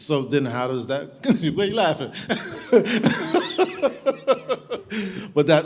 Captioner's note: laughing